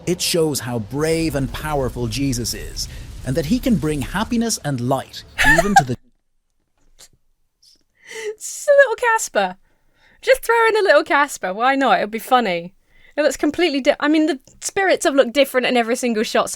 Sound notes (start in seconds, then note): 5.4 laughs